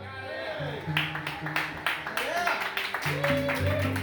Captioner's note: applause